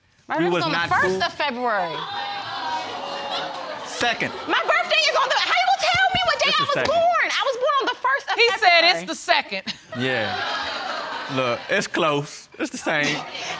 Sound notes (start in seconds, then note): 1.6 audience exclaiming; 9.8 chuckles